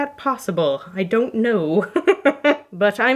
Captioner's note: laughing